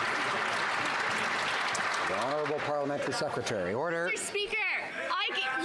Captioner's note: some Applause